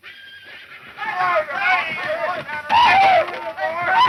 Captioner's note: men cheering